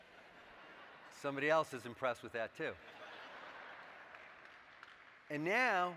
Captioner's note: laughter